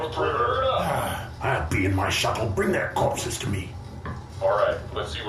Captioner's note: sighs